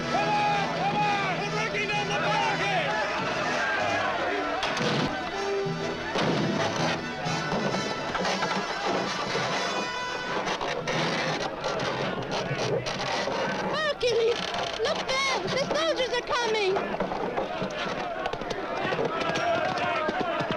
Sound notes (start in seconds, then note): 3.6 all shouting; 17.3 men shouting